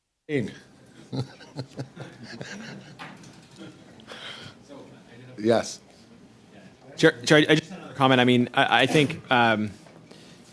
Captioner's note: laughter